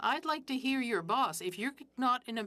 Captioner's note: speaking French